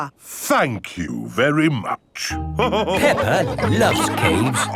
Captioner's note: all laughing